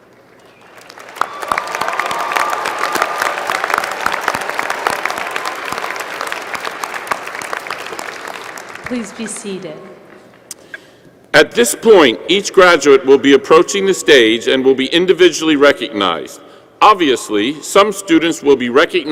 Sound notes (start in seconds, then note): 6.4 applause